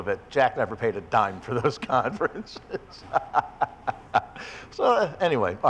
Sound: laughs

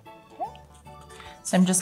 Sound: bubbling sounds

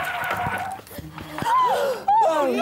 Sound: gasp!

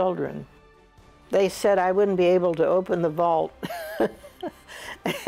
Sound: laughs

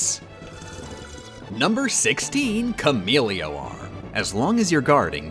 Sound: sip

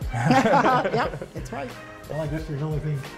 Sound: laughter

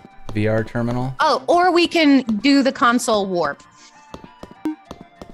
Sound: footsteps

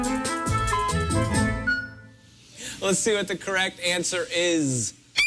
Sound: electronic beeping

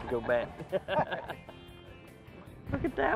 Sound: both laugh

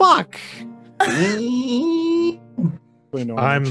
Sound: laughs

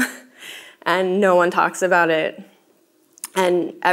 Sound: laughs

